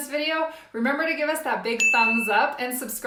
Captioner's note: bell rings